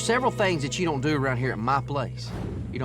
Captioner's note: opens door